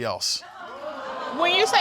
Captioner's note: audience exclaiming